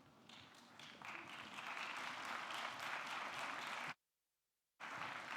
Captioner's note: audience clapping